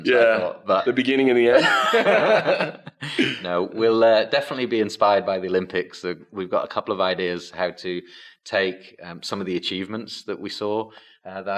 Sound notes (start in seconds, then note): 1.5 everyone laughs